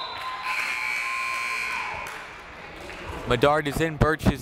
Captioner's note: buzzer